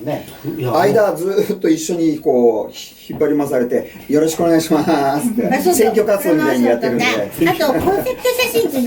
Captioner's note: laughs